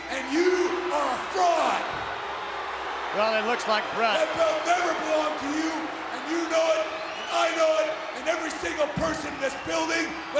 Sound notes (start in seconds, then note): 2.0 audience jeers